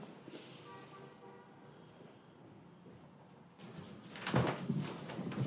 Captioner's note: distant horn honking